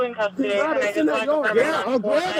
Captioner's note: radio chatter